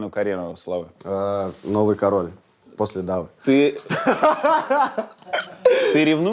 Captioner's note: bursts out laughing